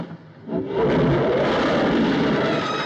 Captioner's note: big whooshing noise